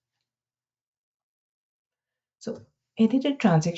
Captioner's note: silence